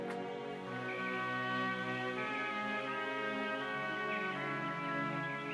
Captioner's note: birds chirping